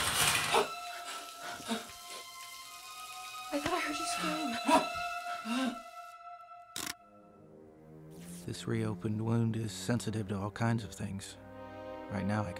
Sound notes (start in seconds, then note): 0.8 gasping; 5.2 Dwight gasps